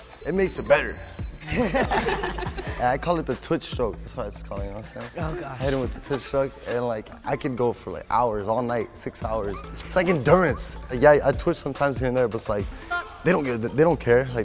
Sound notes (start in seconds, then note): 1.4 all laugh